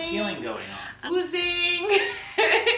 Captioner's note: laughs